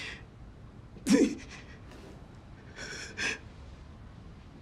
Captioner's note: whimpering